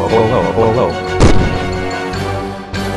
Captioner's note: crash